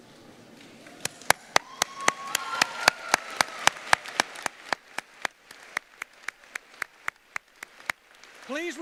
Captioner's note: applause